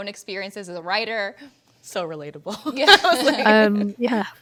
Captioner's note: panelists laughing